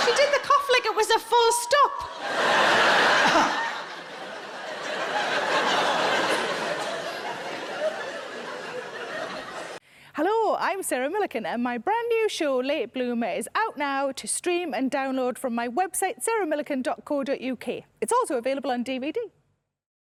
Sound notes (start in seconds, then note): 2.1 audience laughing; 3.1 Sarah coughs; 4.6 audience laughing